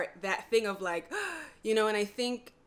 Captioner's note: gasps